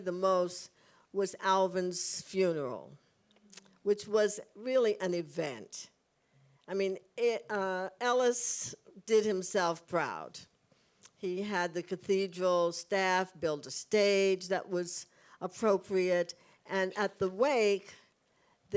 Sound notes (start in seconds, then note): none